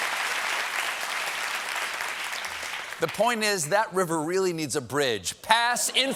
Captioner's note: applause